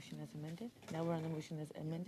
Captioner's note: speaking French